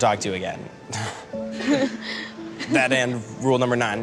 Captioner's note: awkward laughter